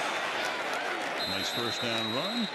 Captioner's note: whistle